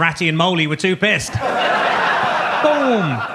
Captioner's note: audience laughs